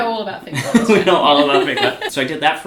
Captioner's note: laughs